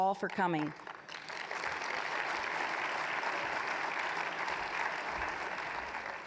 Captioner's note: applause